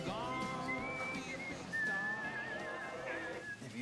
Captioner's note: whistling